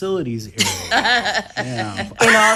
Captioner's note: laughs